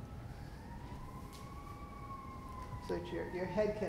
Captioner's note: sirens going by in the background